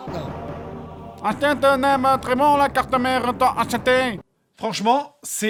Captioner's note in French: Accent asiatique